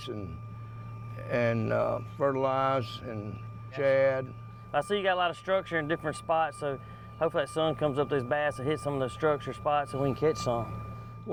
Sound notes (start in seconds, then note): none